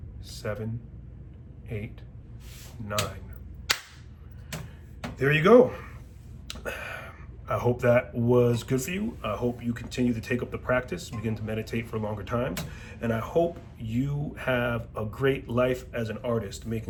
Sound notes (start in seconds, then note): 3.7 claps